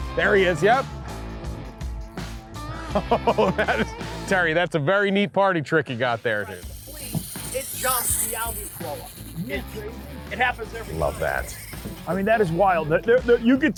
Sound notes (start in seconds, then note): 6.0 reel spins